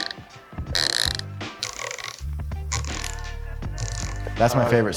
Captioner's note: wrenches clicking